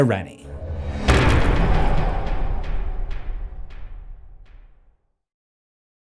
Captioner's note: impact